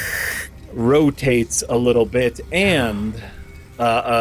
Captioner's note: fountain rotating noise